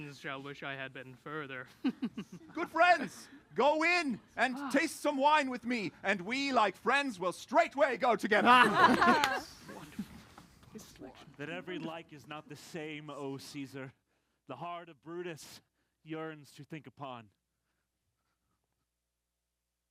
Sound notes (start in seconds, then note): 1.8 laughs; 8.3 laughter